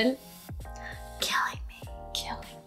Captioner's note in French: chuchote